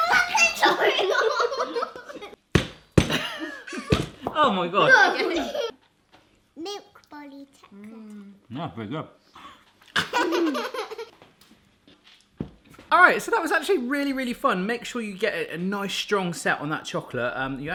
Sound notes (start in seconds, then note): 0.6 giggling; 3.9 thumping; 9.9 laughing